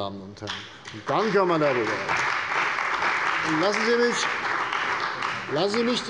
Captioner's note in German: Beifall bei der CDU und dem BÜNDNIS 90/DIE GRÜNEN